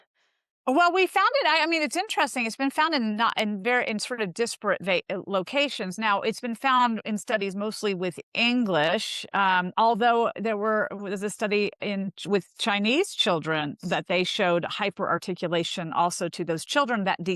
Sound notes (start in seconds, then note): none